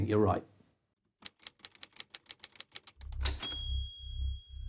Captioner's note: typewriter clicking